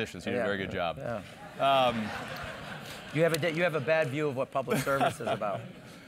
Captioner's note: laugh